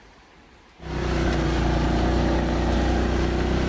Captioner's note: engine roaring